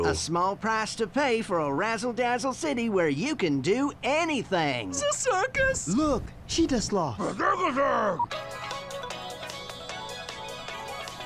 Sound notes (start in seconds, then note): 7.2 grunting; 8.3 upbeat techno music